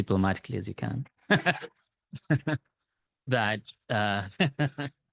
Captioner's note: laughs